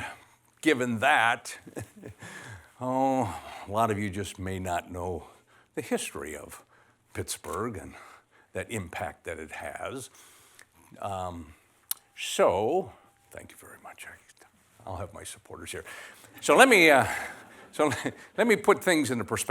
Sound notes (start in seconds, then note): 13.4 whispers: thank you very much. i'll have my supporters here